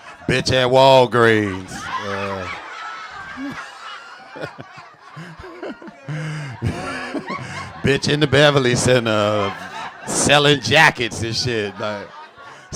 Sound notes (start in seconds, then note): 2.0 audience laughing; 2.0 laughs